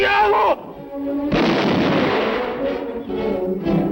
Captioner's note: speaking spanish; gunshot